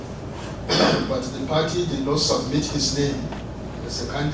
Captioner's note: cough